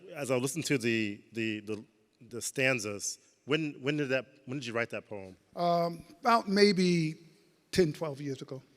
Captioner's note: none